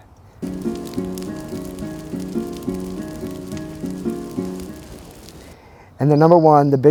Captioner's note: acoustic music; fire crackling